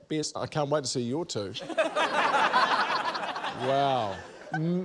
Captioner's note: laughter